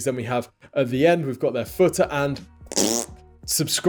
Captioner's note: dismissive noise